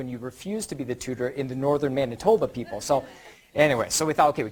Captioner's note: audience laughter